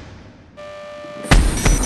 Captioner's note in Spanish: sonido de alarma